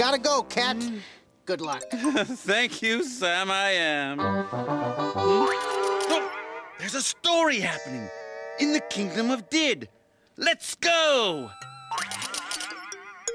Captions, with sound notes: GOTTA GO, CAT. GOOD LUCK. [chuckles] THANK YOU, SAM-I-AM. [exclaims] THERE'S A STORY HAPPENING IN THE KINGDOM OF DIDD. LET'S GO!